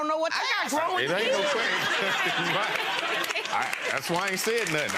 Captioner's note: audience laughs and claps